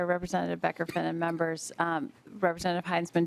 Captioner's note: coughing